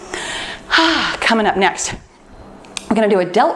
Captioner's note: exhales